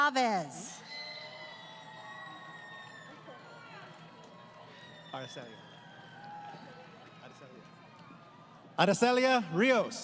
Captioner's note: crowd Cheering